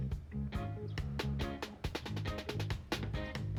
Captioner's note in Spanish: El pájaro cantando